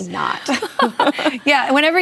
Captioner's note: laughter